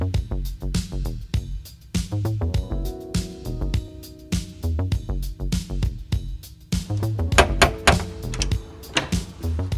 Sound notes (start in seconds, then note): 7.2 sound of door opening; 7.3 knocks